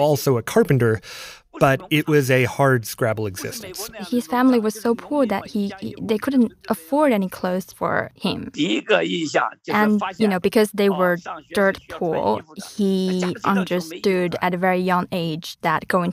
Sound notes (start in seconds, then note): 8.7 speaking Mandarin